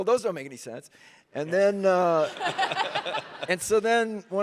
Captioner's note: all laughing